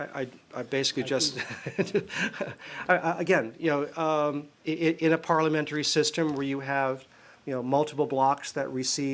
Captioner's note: laughter